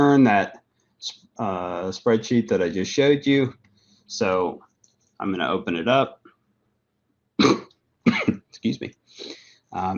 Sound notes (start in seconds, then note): 7.4 cough